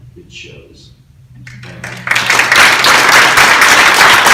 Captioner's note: crowd claps